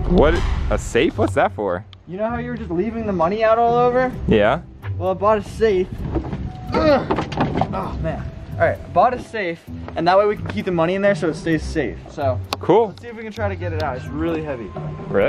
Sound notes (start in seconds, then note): 6.7 grunts